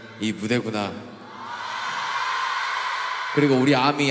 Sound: cheering

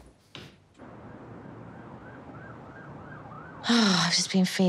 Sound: sirens

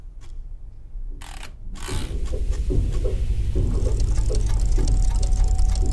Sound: watches ticking dramatically

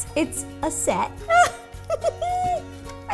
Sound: more giggling

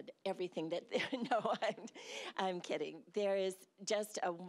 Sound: laughing

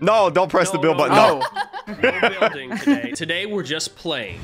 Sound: everybody laughs

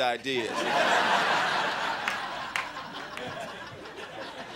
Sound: crowd laughing

